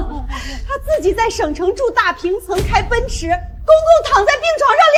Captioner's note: sigh